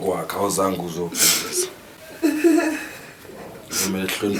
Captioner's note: Sindisiwe sobbing